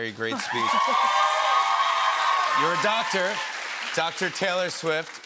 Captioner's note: cheers and applause